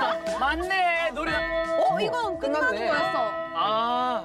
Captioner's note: the bell tolls, signaling the end of today